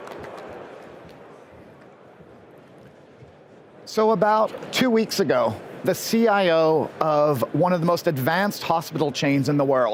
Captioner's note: applause